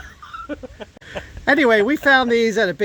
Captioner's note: both laugh